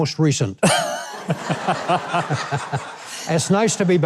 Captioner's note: crowd laughing